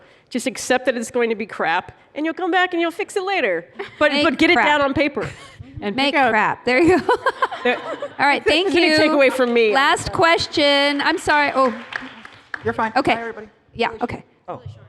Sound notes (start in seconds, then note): 6.8 laughter; 7.0 laughing; 11.8 applause